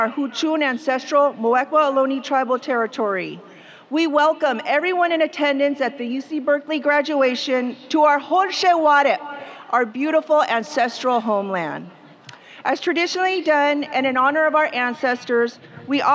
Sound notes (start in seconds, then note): 8.3 speaking foreign language